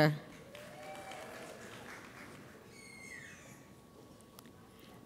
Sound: audience applauds

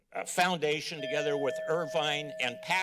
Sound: bell ring

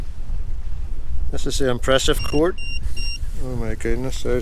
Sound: EMF meter bleeps

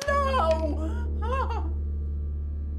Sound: crying

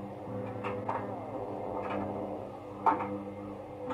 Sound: cat growling

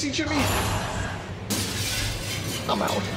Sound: crashing

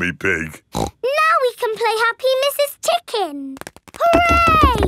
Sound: snorts

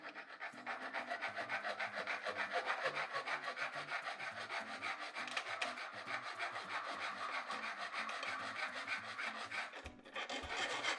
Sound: grating

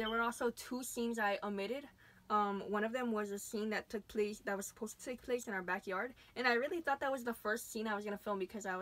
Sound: none

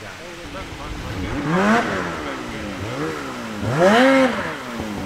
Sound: engine revving

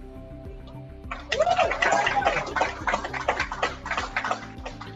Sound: applause

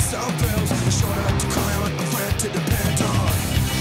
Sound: horn honks

